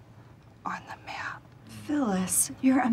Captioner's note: whispering